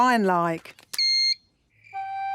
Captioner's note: beep!